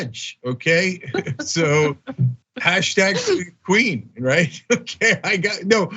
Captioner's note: laugh